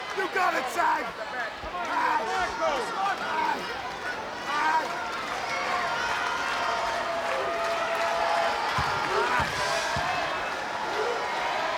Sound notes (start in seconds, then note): 7.2 audience cheering